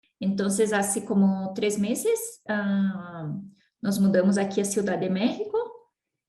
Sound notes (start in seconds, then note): 0.0 in Spanish